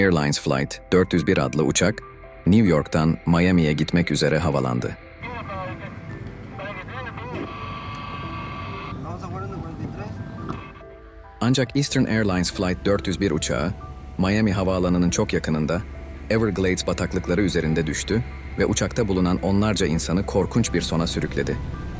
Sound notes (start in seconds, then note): 5.8 radio Conversations